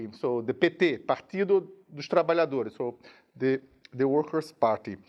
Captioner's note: speaking in a foreign language